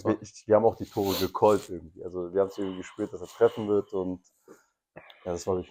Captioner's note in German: schnauben